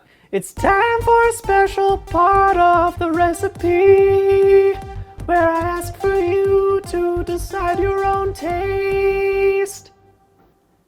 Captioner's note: autotuned